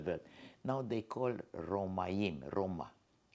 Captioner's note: hebrew